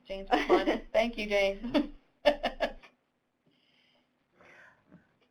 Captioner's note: laughing